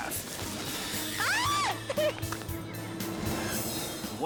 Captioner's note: pedestrian screams